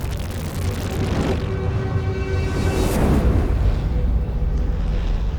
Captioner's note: surge of energy